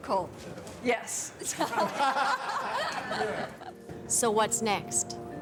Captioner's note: laughter